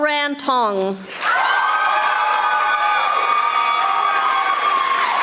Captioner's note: audience applauding